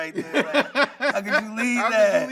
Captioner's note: laughing